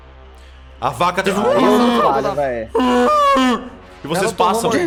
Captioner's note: bellows of pain